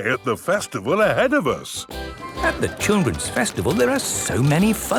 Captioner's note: festival buzz and music